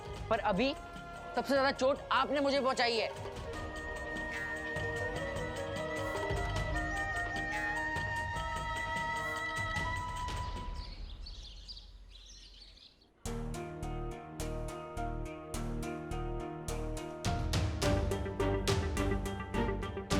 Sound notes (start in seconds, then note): 5.6 emotional music; 10.4 birds chirping; 17.2 tense music